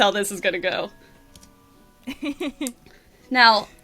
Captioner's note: laughs